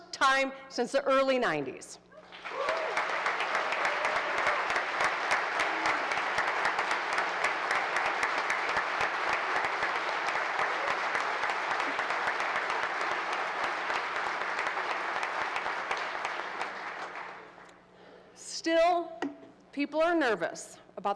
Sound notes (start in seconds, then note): 2.2 applause